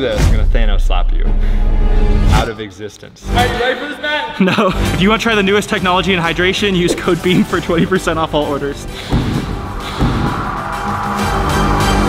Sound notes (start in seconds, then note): 4.7 laughing; 8.6 intense music